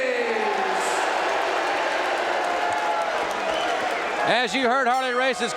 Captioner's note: audience cheering